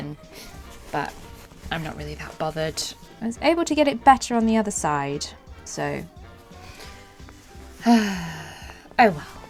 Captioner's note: sighs